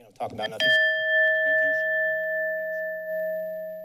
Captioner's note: bell rings